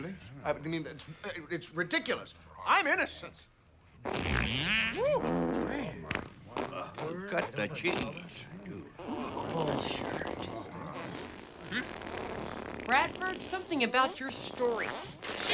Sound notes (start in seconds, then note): 4.0 loud farting; 9.0 farting continues